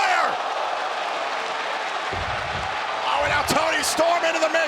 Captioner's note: crowd roars